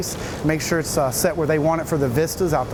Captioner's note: drill cracks